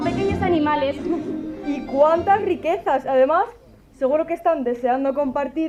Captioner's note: laughs